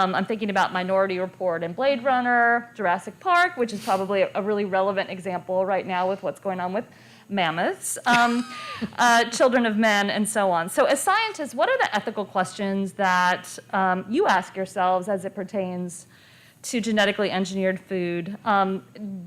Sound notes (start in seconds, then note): 7.9 laughter